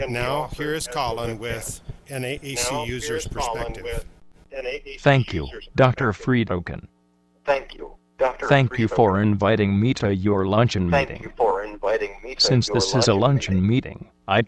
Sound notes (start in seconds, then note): 5.0 voiceover